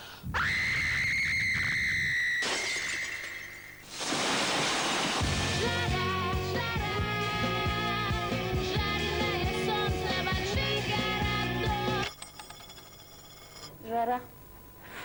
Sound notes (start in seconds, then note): 0.3 scream; 3.6 crackle